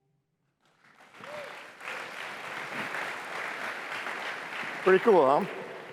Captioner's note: applause